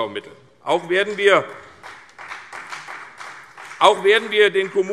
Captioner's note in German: Beifall CDU und BÜNDNIS 90/DIE GRÜNEN